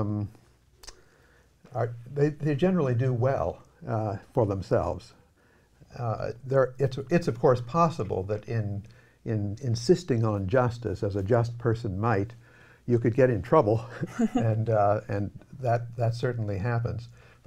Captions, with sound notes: they generally do well for themselves. It's of course possible that insisting on justice, as a just person might, you could get in trouble. [laughing] And that certainly happens.